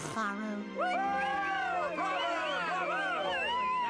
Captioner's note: audience cheering